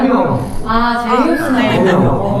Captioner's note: gulp